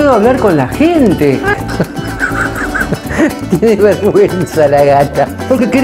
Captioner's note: laughter